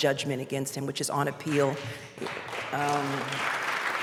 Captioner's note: applause